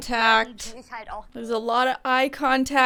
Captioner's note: speaking in German